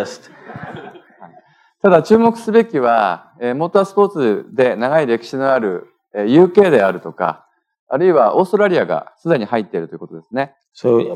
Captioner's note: speaking japanese